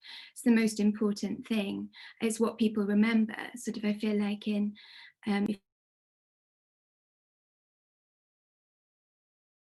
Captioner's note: muted